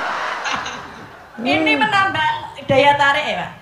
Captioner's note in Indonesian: tertawa